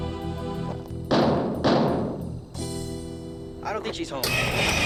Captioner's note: loud knocking